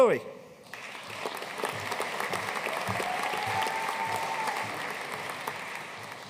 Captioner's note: audience cheering and applauding